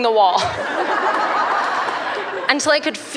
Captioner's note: laughter